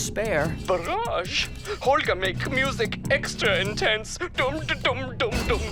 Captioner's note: over blue tooth